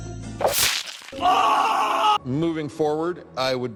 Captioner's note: wet slice sound; screams